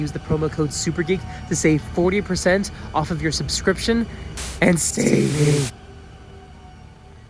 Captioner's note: distortion increases